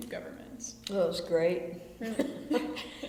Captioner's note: BOTH laugh